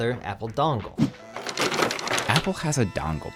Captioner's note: cords clatter